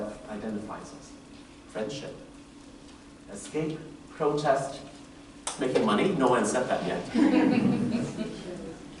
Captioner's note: laughter